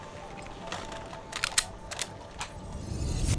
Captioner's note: pistol slide cocking